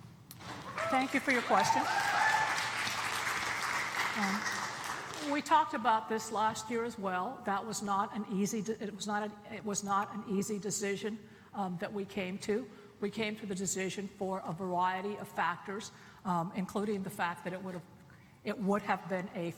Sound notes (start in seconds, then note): 3.1 applause